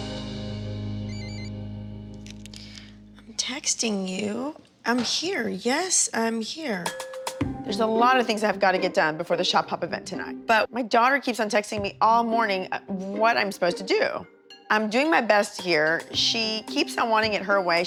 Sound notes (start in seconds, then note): 1.1 cellphone chimes